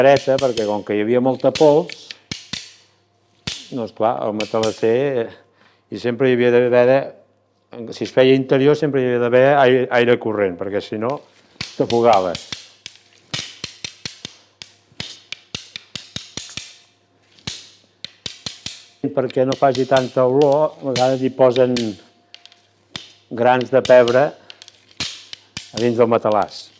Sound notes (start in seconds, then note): 13.3 sticks clapping